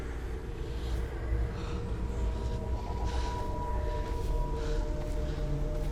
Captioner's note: anxious breathing